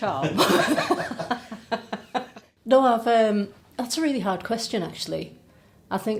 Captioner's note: laughing